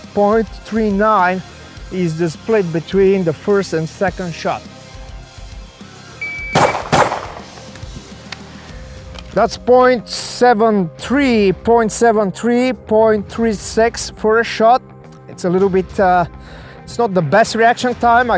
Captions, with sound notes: 0.39 is the split between the first and second shot. (timer beeps) (gun bangs) That's 0.73, 0.73, 0.36 for a shot. It's a little bit, it's not the best reaction time,